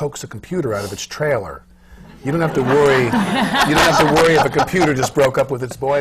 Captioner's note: laughter